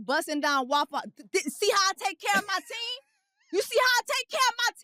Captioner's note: laughs